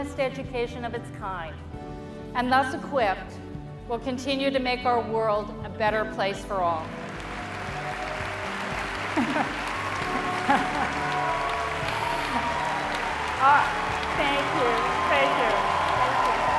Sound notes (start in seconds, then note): 6.8 applause